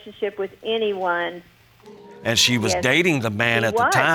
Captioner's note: audience groans